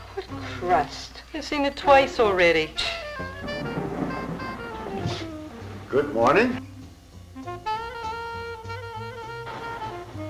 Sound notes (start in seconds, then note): 2.1 scoffing; 7.6 jazzy music